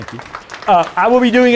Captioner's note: applause